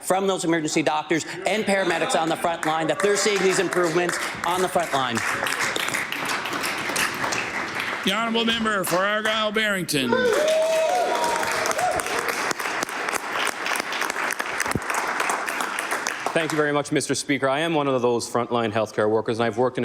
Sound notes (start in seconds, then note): 15.3 applause